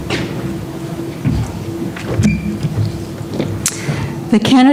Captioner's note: none